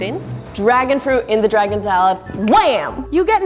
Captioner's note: snaps fingers